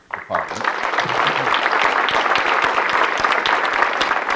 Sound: audience clapping

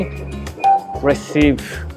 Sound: machine beeps

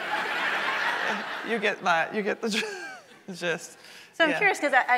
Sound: audience laughing; laughs

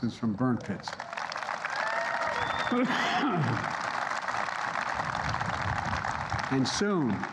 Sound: applause

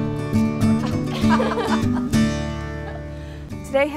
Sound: laughing

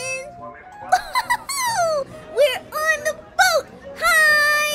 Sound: laughs

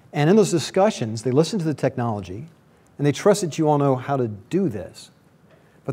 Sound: none

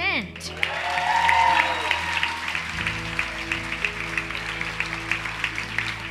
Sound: audience applauding; audience cheering

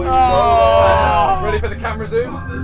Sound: groaning

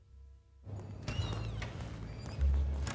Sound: door opens

